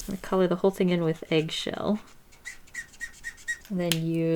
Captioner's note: marker squeaking